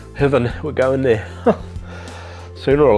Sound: laughs

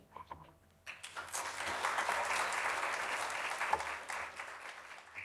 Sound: audience clapping

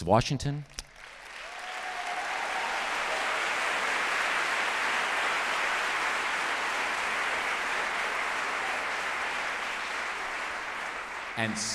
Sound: applause

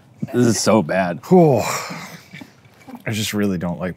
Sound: exhales loudly

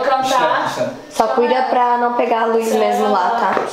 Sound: indistinct chatter

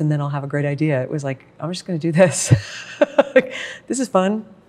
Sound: laughs

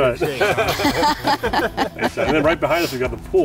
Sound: group laughing

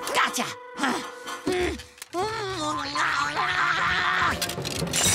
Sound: grunting; shattering

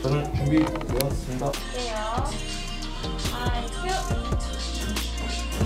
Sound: VCR recording starts

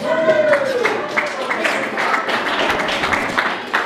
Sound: clapping

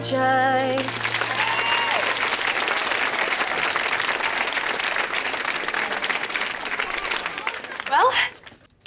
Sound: cheering, applause

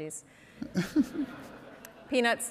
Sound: Ibram and audience laughing

